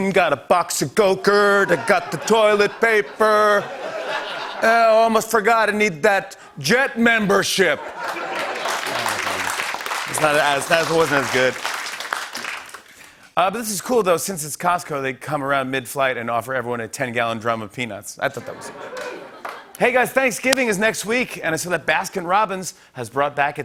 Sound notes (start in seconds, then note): 8.0 normal voice; 8.0 applause